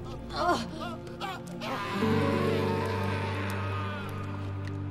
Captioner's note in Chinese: 男人尖叫聲